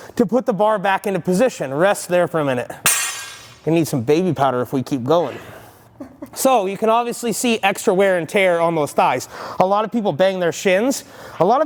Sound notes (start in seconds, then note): 2.8 weight bar dropping; 5.9 laughing